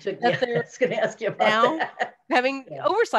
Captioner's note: laugh